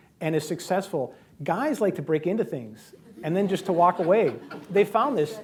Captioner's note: laughter